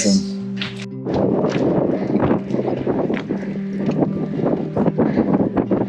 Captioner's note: wind blowing and man panting